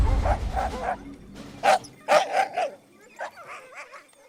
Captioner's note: dogs barking